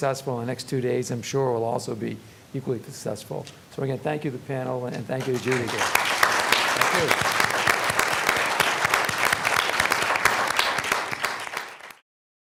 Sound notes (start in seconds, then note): 5.2 applause